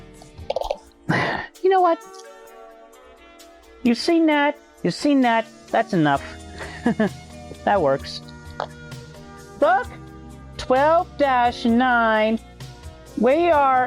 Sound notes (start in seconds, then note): 1.1 sigh; 6.5 laughter